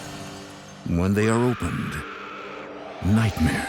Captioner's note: women screaming